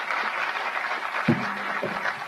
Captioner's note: applause